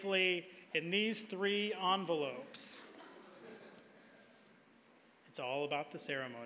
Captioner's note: audience laughing